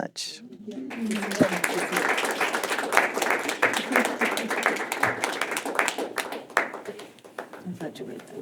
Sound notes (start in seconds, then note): 0.8 clapping